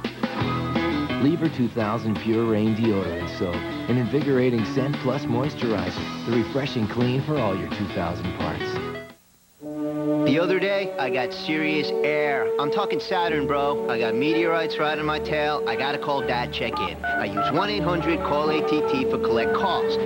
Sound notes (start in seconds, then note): 16.7 phone keypad tones